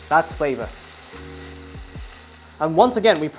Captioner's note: sizzling sound